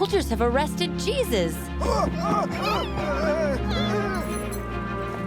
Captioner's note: shouting